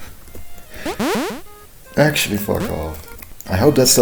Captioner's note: chuckling